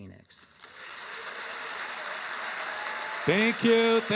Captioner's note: audience applauding